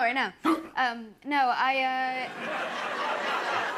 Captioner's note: gasps; laughter